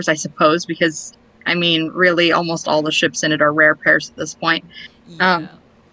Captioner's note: laughs